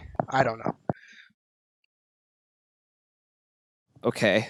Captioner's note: awkward silence